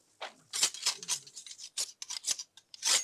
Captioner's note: shink